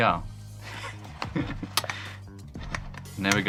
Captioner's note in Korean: 웃음